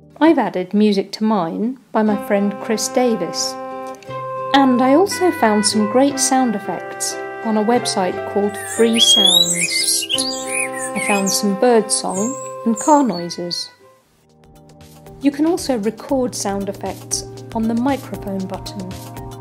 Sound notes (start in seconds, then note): 2.7 oboe and harp music; 8.4 blackbird sings